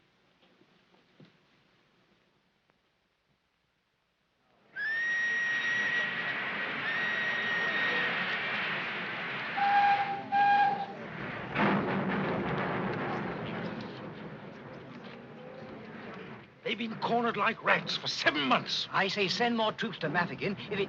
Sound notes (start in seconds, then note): 5.2 train whistle blows